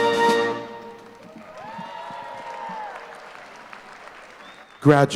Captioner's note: applause